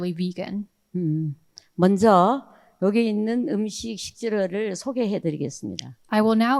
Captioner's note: speaking in foreign language